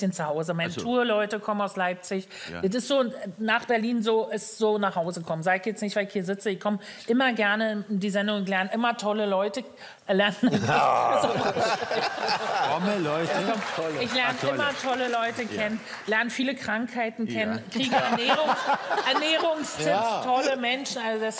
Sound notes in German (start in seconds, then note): 10.4 Lachen